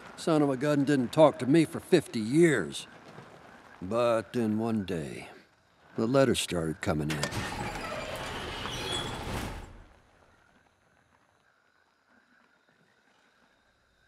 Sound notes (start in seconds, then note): 7.1 garage door squeaks